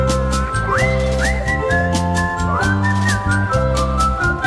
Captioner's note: tuneful whistling